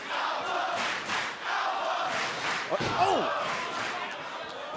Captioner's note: crowd cheering